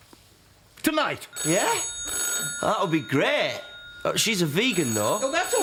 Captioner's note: phone rings